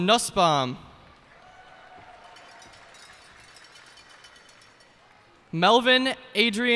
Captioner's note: cheers and applause